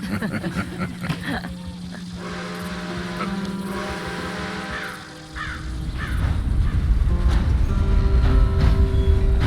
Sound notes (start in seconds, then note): 0.0 all laugh; 2.1 train choo choos